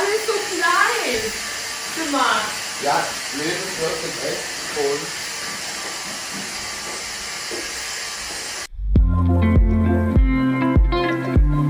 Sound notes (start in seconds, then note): 3.0 man speaks foreign language; 8.9 upbeat music